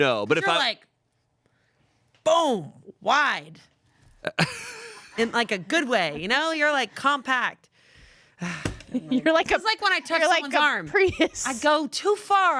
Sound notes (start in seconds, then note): 4.4 laughs; 8.4 sighs